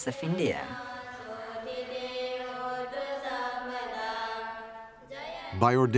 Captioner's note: chanting continues